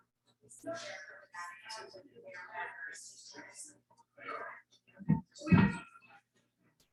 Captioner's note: people chattering indistinctly continues